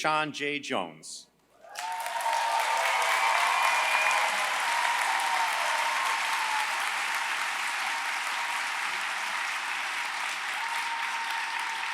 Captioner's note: applause